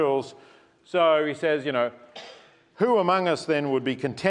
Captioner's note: cough